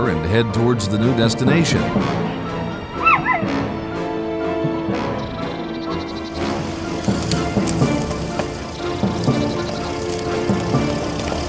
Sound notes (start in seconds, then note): 4.4 dogs barking; 4.4 dramatic music; 9.5 car engine revving; 9.5 dramatic music